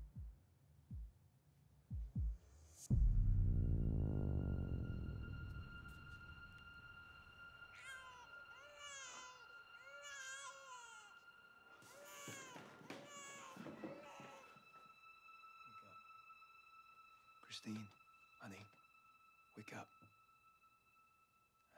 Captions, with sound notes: (eerie music) (baby crying) - Christine, honey, wake up, I've got someone here